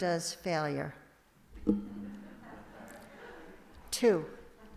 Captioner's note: laughter from congregation